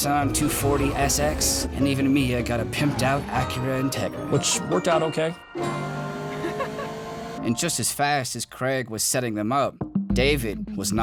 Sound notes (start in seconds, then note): 5.6 chuckles